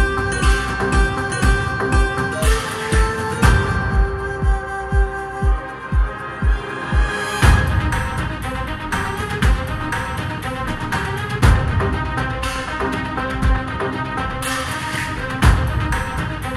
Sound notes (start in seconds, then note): none